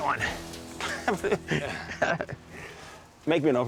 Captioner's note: laughs